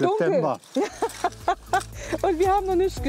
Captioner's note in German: Lachen